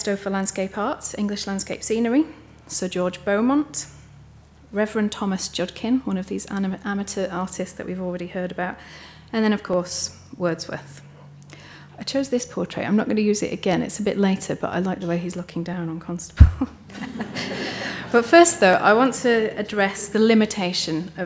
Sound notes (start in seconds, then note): 16.8 all giggling